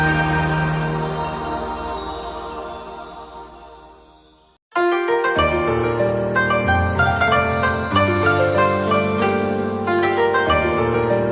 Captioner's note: hair blowing in the wind